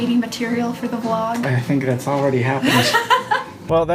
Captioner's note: laughs